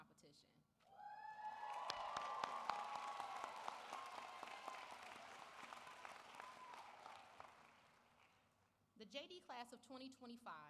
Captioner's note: applause